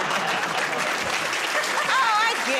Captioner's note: laughter; applause